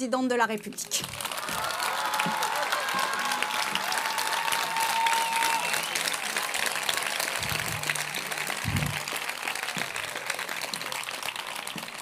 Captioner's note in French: Applaudissements